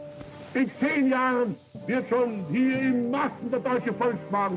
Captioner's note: speaking German